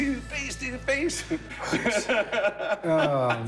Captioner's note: laughing